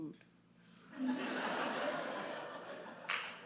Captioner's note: crowd laughs